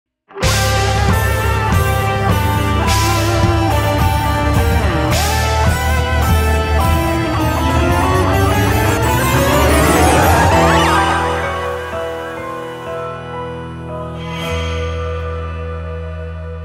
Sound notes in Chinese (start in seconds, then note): 2.9 粉絲瘋狂中